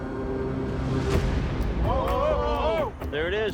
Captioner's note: all exclaim